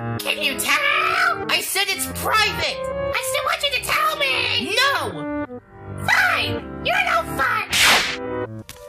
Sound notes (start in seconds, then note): 7.7 woosh!